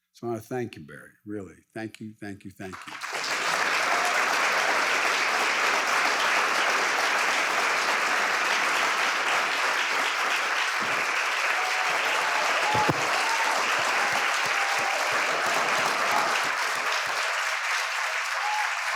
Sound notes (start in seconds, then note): 3.0 audience applauds